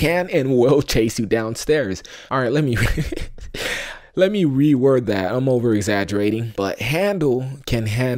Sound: laughter

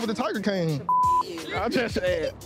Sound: beep

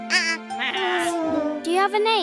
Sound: bleating

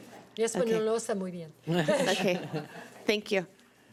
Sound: foreign language

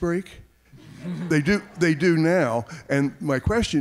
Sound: audience laughing

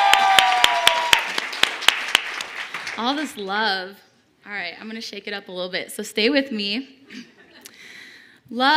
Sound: cheers and applause

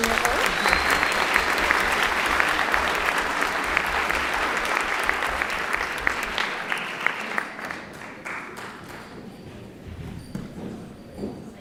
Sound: applause

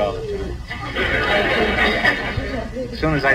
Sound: audience laughs

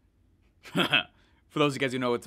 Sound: laughing

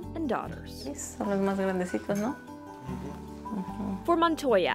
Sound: speaking in Spanish

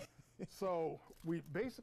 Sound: laughter

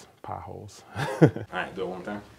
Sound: laughs

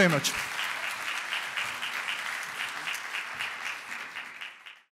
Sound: applause

